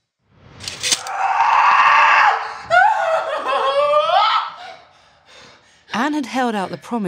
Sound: sword unsheathes; sword clinks; screams

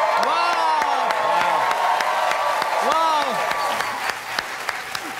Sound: cheers and applause

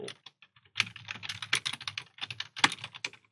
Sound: typing

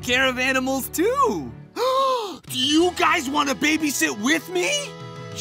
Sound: gasps

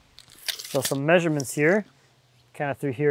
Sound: tape measure crackles

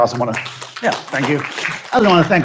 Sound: audience clapping

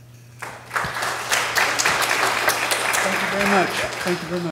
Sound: applause

